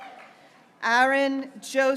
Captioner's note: graduates cheering